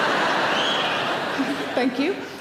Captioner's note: audience laughs; wolf whistle